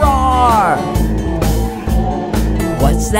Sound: dinosaur roar

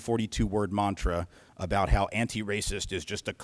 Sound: grumpy voice

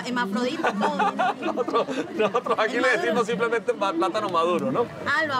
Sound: laughs

